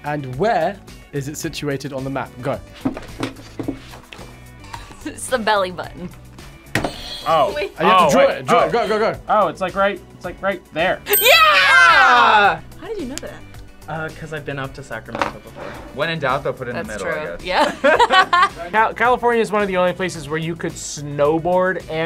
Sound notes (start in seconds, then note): 6.9 buzzer rings; 17.5 both laugh